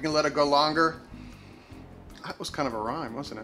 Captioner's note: inhales